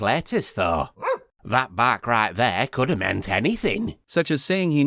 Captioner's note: woof